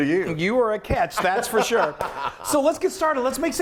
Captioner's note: laughs